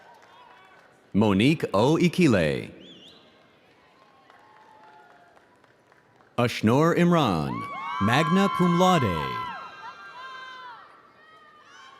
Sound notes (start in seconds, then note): 3.6 audience applauding